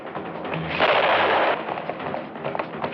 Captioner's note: gunshots